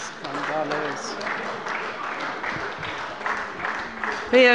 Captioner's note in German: Beifall bei der CDU und dem BÜNDNIS 90/DIE GRÜNEN